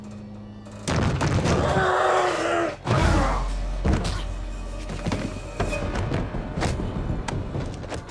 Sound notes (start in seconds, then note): 1.8 growling; 3.5 thudding